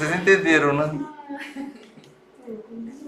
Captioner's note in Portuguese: risos